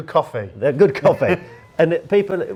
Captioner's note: laughs